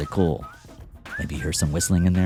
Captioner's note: whistling